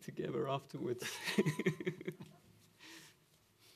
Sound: laughter

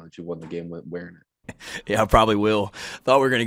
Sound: Shane laughs

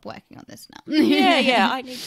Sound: laughs

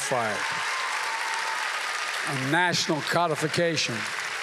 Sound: applause

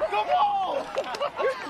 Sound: laughing

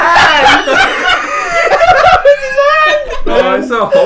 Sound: laughing

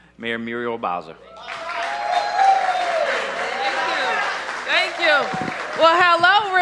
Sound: cheers and applause

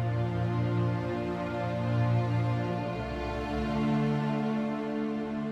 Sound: none

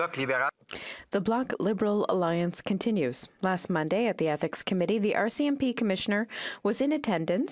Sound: speaking French

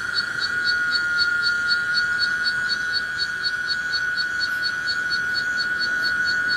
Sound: loud cicada buzz

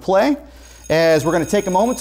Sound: bell rings

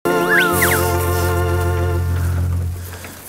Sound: rustling

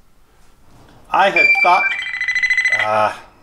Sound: multiple beep

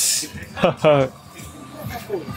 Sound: chuckles

